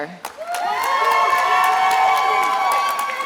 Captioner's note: attendees applauding and cheering